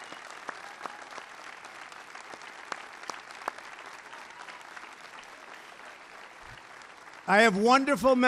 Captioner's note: applause